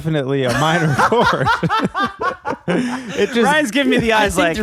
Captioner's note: laughing